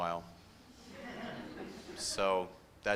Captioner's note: laughter